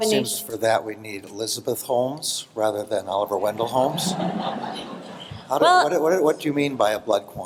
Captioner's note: laughter